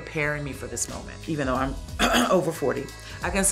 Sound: clears throat

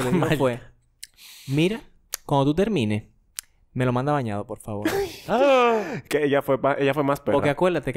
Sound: laughs, surprise sound

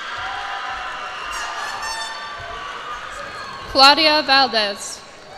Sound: cheers and applause

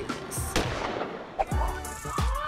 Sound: gun shot; yells and screams

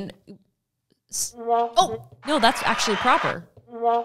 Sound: canned applause

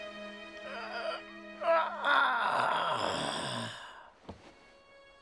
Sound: groaning

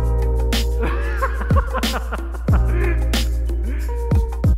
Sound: laughing

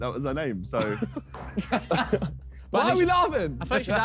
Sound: men laughing

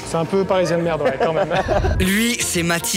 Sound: laughs

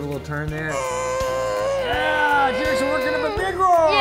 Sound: roaring

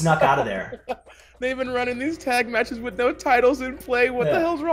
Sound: laugh

